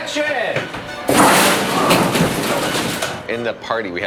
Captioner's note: papers whooshing